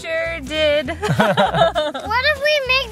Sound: laughing

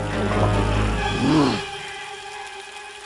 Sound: choking; growls

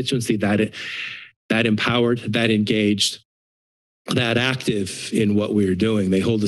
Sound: inhales

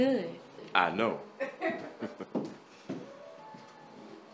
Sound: both laughing

